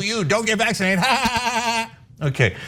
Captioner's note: laugh